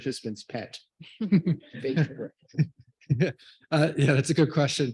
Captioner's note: everyone laughs